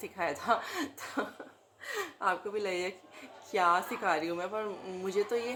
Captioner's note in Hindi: हंसी